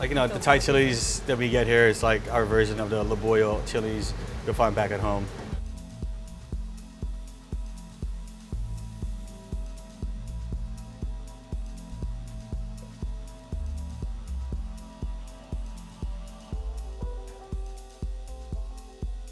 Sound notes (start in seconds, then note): 6.3 gentle pulsing; 16.8 soft piano